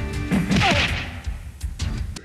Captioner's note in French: clap